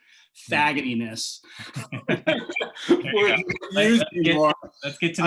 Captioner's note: laughter